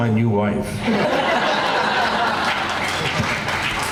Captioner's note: laughing